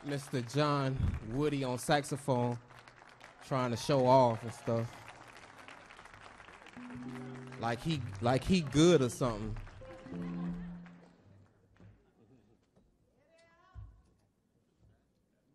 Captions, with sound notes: Mr. John Woody on saxophone trying to show off and stuff like he good or something. [audience laughs]